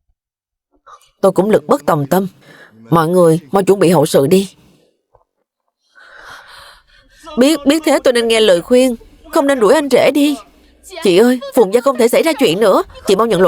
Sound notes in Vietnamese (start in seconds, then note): 5.9 khịt mũi; 5.9 thở dài